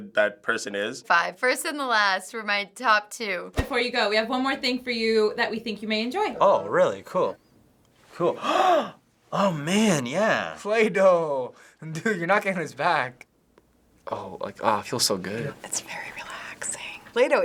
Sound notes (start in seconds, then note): 8.4 gasps; 15.5 whispers